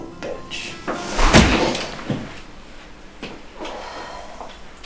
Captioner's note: thudding blow